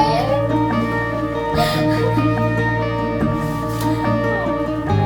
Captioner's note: sobbing